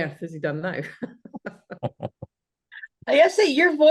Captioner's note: laughs